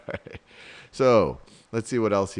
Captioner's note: chuckles